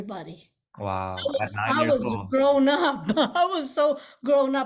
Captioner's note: laughs